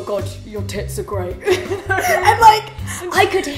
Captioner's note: laughs